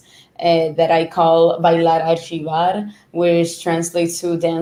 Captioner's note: speaking foreign language